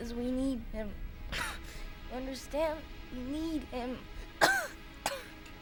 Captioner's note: coughs